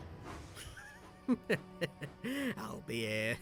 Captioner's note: dexter chuckles quietly to himself